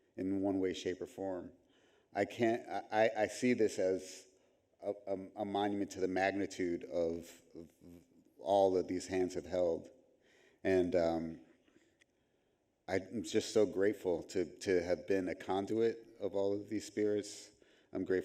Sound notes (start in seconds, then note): none